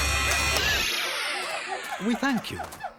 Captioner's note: screeching stops